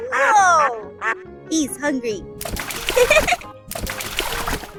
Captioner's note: laughs